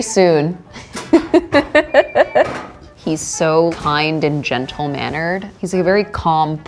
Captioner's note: laughs